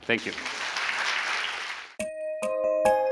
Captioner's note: applause